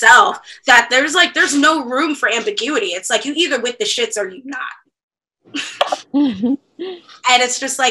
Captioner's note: laughter